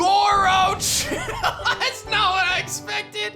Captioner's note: laughs